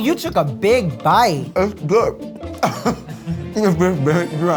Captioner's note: chuckles